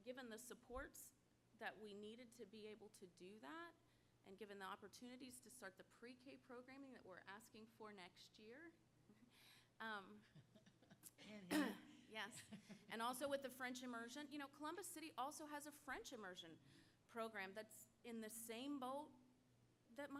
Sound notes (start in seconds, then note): 10.2 laugh; 11.4 cough